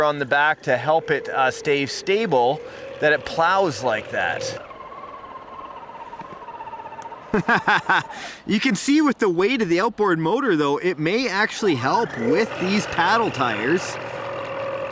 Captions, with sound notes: on the back to help it stay stable, that it plows like that. (muted engine whirring) (laughs) You can see with the weight of the outboard motor though, it may actually help with these paddle tires.